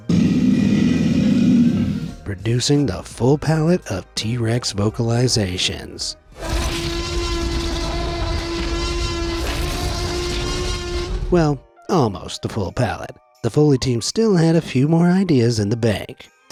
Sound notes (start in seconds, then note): 0.0 alligator bellows; 6.3 T-Rex roars